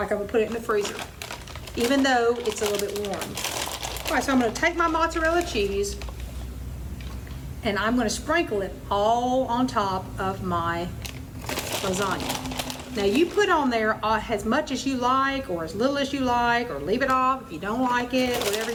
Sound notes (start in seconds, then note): 0.0 plastic crinkling; 10.9 plastic crinkles